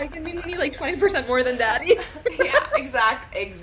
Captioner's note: laughs